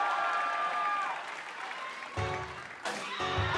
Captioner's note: cheers and applause